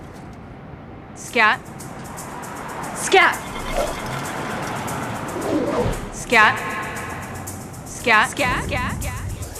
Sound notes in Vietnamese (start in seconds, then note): 5.8 tiếng vọng; 7.8 vọng lại